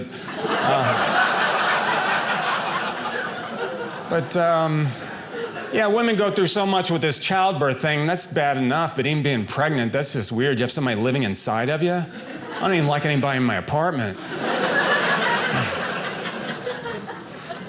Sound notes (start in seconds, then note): 0.0 audience laughing; 14.1 audience laughing